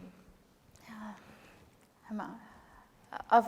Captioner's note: speaking kurdish